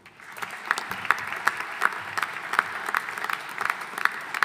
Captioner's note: audience applauding